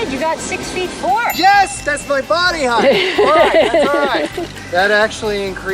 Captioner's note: laughs